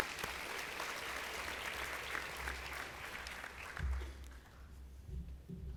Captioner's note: applause